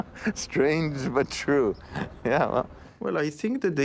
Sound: laughs

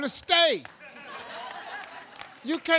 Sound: audience laughing

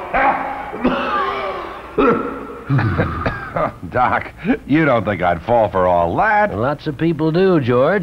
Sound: coughing

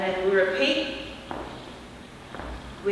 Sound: foot tap

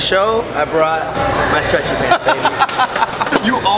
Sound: laughter

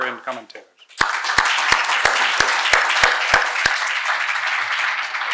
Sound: audience applauding

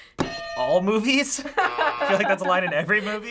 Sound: hitting bell; buzzer

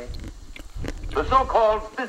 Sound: chewing

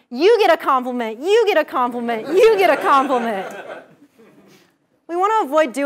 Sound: laugh

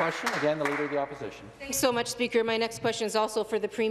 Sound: some Applause

